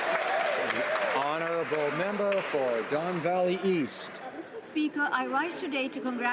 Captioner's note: some Applause